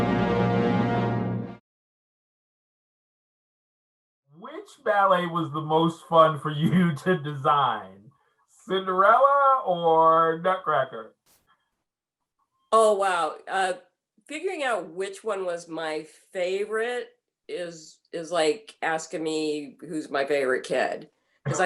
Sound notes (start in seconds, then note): 6.1 laughing